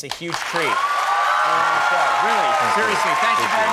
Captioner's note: audience applause